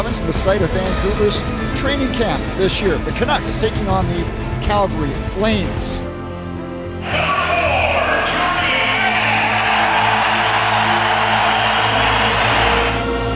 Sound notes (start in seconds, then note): 9.8 crowd cheering